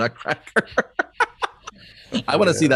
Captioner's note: laughs